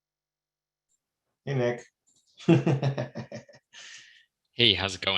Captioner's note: laughing